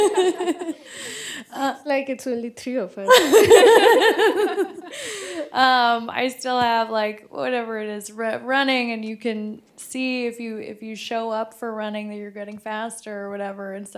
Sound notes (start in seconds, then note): 3.1 laughter